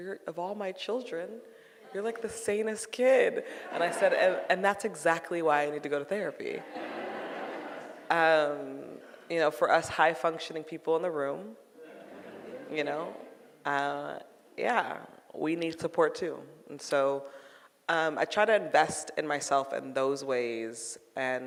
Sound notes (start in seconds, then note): 3.5 audience laughing; 6.6 audience laughing; 11.8 audience murmurs